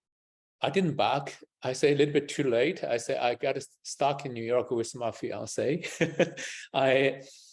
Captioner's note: laughs